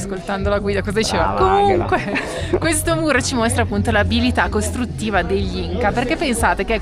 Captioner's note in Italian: risate